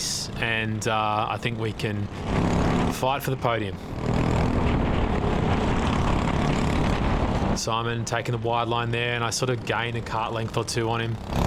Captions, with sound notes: and I think we can fight for the podium. (engine revving) Simon taking the wide line there and I sort of gained a cart length or two on him.